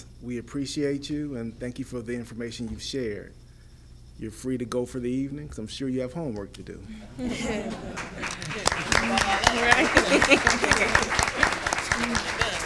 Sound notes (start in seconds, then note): 7.2 audience laughing; 7.6 audience applauding